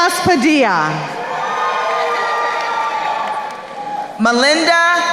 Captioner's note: crowd cheering